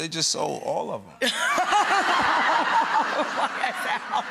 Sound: Rachael laughs

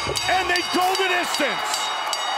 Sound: bell ringing; cheers and applause

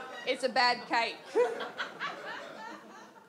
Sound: audience laughs

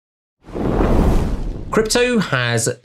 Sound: flame whooshing

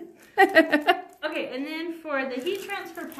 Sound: laughing

